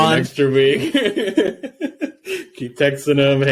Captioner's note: laughing